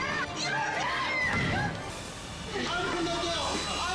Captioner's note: dramatic music; staff member screaming